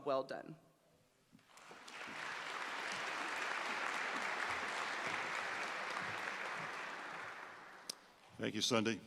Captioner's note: applause